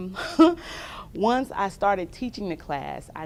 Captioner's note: laughter